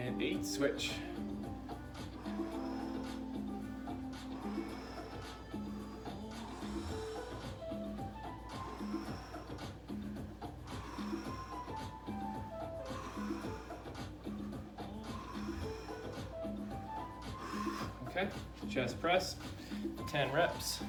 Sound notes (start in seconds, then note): 1.7 breaths; 1.7 upbeat music; 4.4 breaths; 4.4 upbeat music; 7.9 breaths; 7.9 upbeat music; 12.6 breaths; 12.6 upbeat music; 19.3 upbeat music